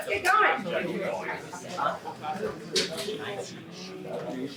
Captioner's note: indistinct chatter